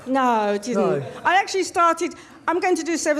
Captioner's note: crowd laughs